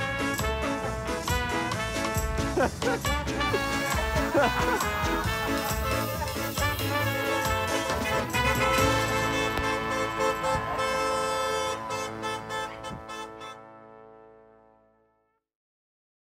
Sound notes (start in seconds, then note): 2.5 laughing; 6.1 car horns blaring